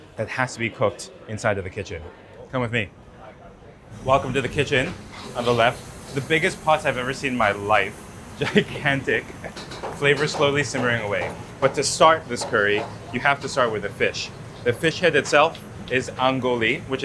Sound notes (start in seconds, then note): 3.6 patron chattering continues; 5.8 food sizzles; 8.4 laughs